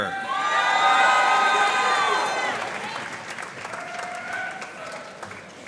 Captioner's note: audience cheering and applauding